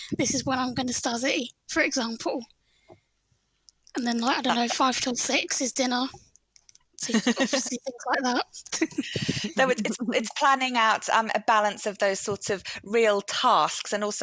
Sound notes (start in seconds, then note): 8.5 chuckles